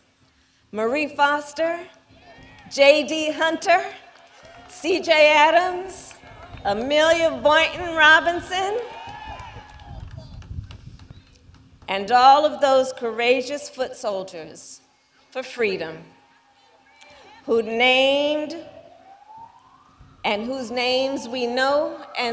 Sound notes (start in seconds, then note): 3.8 applause